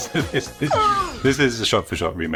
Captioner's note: imitates dinosaur roaring